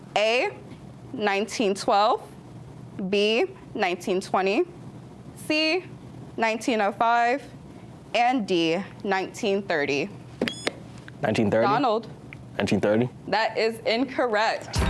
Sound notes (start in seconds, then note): 10.4 buzzer beeps